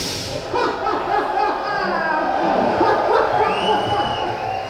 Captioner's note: audience laughing